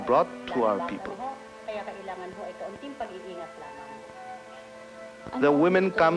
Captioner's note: non-English speech